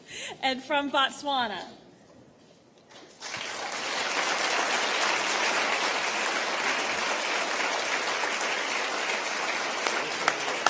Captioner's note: applause